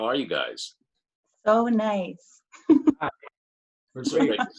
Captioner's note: laughs